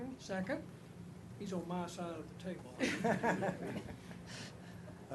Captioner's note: laughter